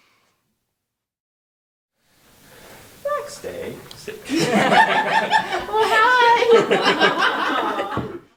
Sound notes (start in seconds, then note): 4.2 laughter